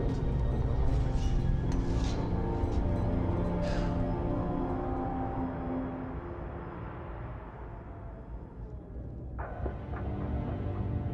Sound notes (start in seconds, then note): 3.1 sighs